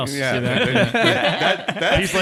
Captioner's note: all laughing